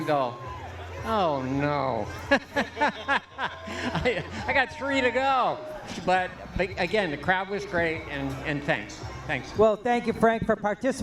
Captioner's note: laughter